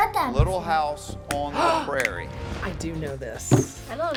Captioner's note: gasps